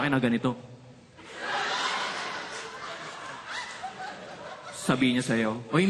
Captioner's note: laughter